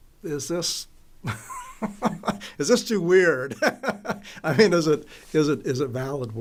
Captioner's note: laughs